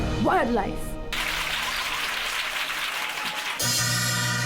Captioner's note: applause